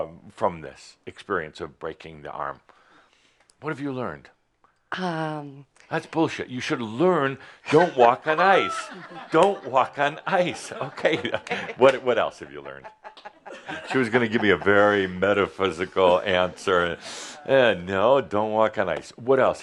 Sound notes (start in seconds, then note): 10.6 some chuckles; 11.3 chuckling; 12.7 she’s still chuckling